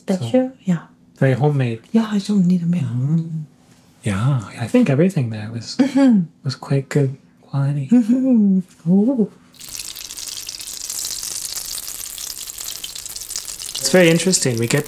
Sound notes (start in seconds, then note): 9.5 sizzling